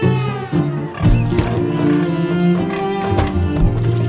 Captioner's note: pigs grunting; birds